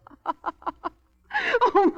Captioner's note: laughing